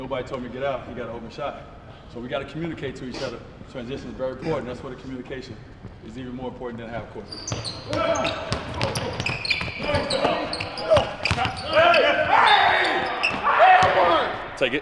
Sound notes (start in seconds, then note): 7.2 chattering and squeaking; 12.1 whistling; 12.1 yelling